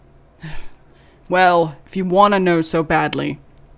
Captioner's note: defeated sigh